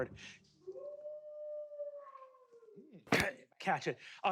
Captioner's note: wolf howls